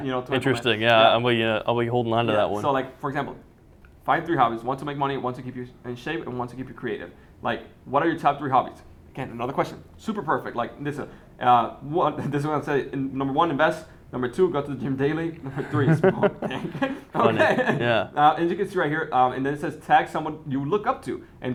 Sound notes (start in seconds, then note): 14.8 laughing